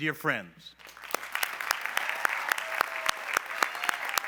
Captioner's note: applause